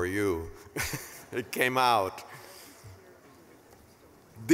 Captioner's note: laughing